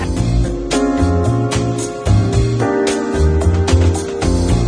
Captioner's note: crowd chatters